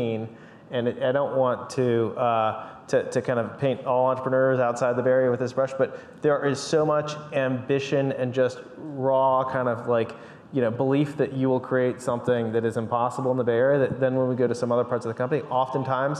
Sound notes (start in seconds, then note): none